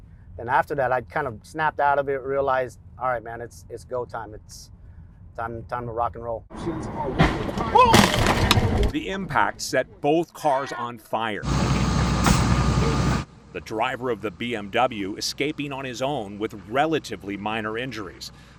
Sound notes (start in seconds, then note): 7.1 car crunching; 11.4 flames roaring